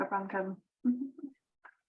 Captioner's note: giggles